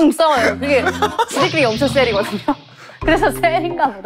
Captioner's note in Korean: 거의 오열 중